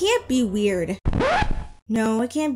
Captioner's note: record scratch